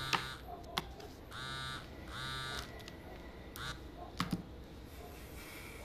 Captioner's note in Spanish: Suena el celular